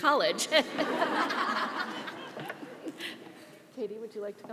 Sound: audience laughs

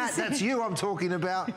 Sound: laughter

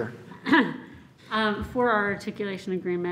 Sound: clears throat

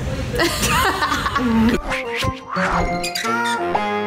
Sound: laughs

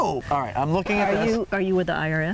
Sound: record scratching

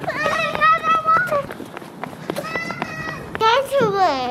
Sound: children screaming

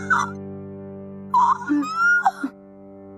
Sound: shrieking

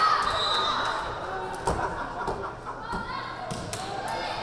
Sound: whistle blaring

